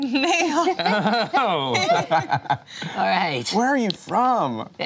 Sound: laughter

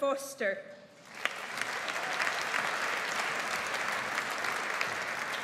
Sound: audience applauds

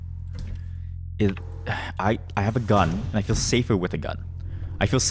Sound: sigh

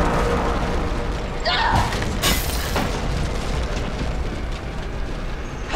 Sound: suspenseful music; Rosemary screams

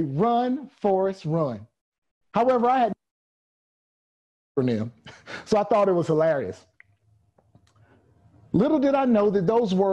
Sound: audio cuts out

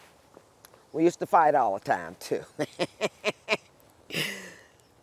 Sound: laughs

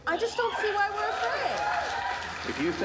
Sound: audience applauding

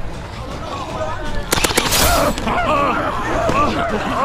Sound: gunshot firing

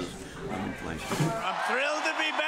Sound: cheering and applause

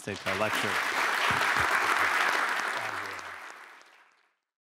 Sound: applause

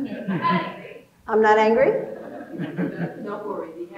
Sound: audience laughing

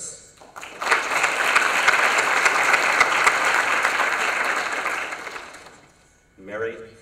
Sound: applause

